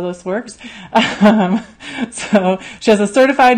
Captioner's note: laughs